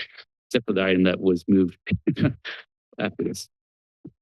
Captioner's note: chuckles